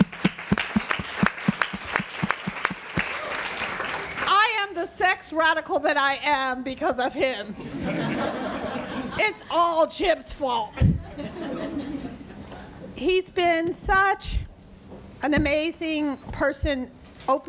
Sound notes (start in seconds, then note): 0.0 audience applause; 7.6 audience laughs; 10.7 audience laughs